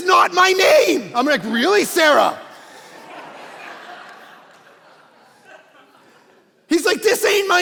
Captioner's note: congregation laughing